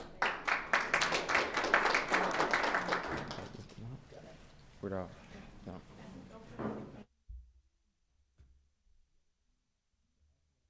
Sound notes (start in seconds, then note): 0.0 attendees and members applauding; 3.8 and attendees speaking faintly